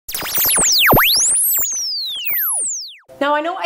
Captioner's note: frequencies tuning